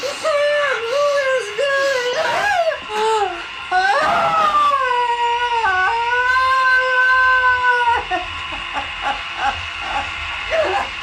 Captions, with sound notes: Sam, oh, it's Billy. (Gina crying)